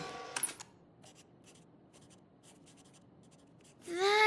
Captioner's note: scribbling intensifies